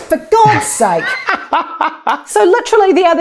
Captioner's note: laughs loudly